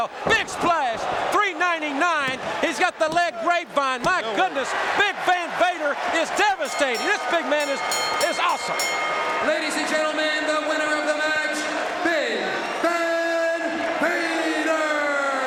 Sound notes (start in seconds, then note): 8.8 bell ringing